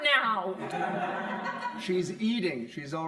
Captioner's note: crowd laughing